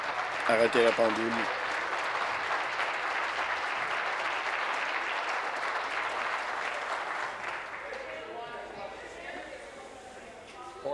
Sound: applause

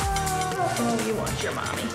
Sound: fussing

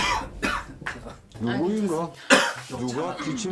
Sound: coughing

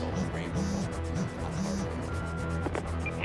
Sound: answering machine beeps

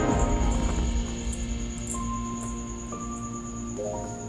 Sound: jingly toy

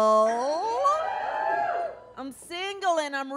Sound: audience cheers

